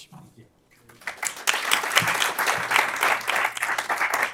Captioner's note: applause